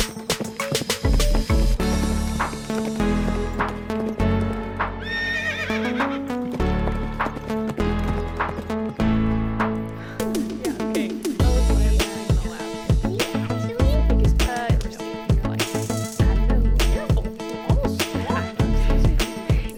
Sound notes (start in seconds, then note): 0.3 horse galloping; 5.0 horse whinny; 9.4 fire crackles